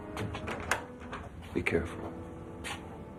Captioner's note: door rattles